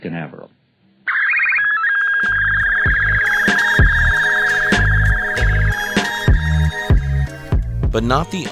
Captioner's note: beeping